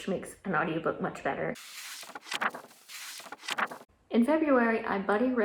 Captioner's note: pages turning